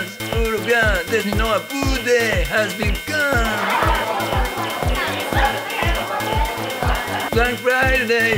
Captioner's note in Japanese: ブーイング